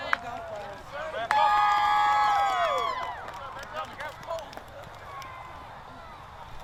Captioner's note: crowd Cheers